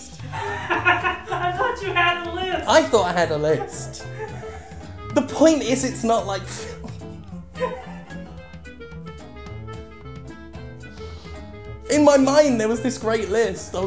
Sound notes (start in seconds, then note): 4.0 laughing; 6.4 both laugh